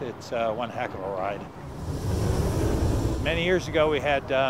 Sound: roller coaster car whooshes

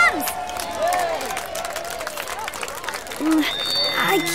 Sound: crowd cheering

